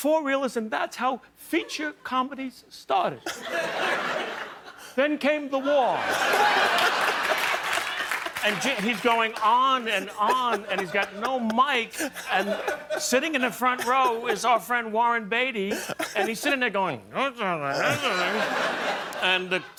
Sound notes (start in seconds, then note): 10.7 laughter